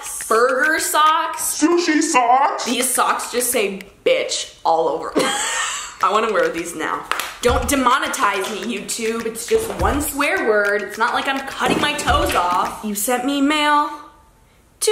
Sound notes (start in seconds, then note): 5.2 laughs